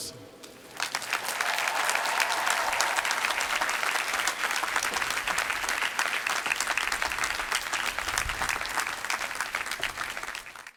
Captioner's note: applause